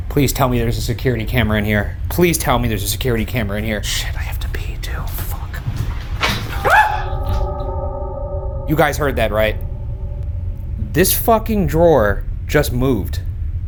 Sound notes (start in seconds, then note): 6.3 item clicking; 6.4 screaming